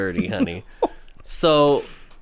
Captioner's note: laughs